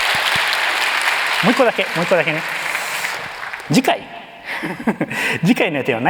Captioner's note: applause; chuckles